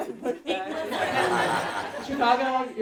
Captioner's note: audience laughing